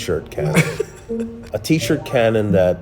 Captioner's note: laughing